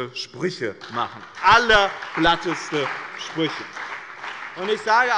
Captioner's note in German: Beifall bei dem BÜNDNIS 90/DIE GRÜNEN und der CDU